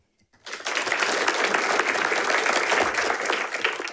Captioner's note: audience applauding